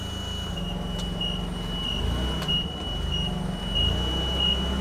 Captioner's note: fork truck beeping